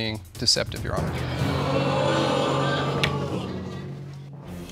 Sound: audience sighs

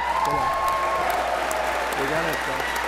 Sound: applause

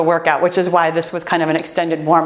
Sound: timer beeping

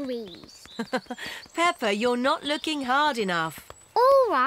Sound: laughs

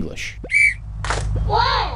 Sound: whistle

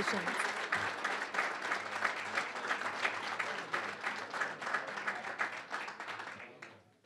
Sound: applause

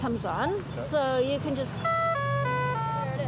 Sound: crosswalk beeping melodically

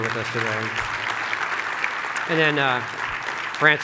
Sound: clapping

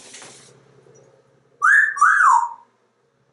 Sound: Einstein wolf whistling

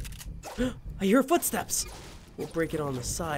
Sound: gasps

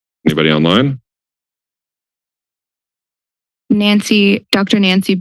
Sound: silence

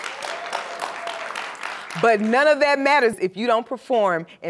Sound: applause

